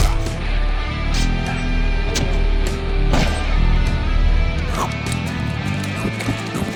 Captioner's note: gunshot